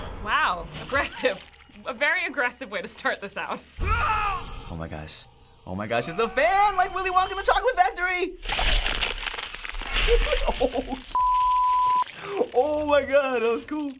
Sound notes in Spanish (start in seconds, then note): 3.4 En el juego: gruñido fuerte; 8.6 En el juego: cámara lenta crujido; 11.1 pitido